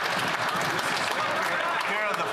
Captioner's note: applause